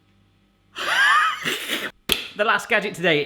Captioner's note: laughs